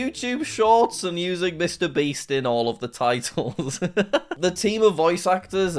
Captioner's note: laughs